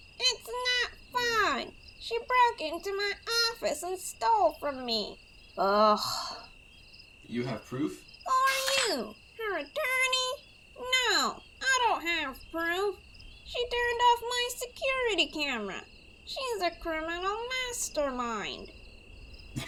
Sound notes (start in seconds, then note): 5.6 groans in annoyance